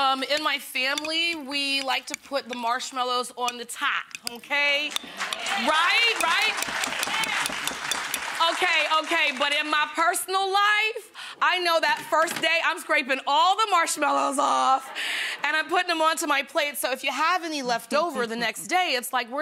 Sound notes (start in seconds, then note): 4.9 audience clapping; 14.5 audience laughing